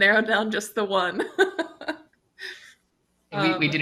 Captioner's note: chuckles